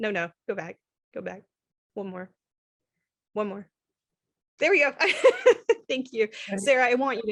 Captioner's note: laughter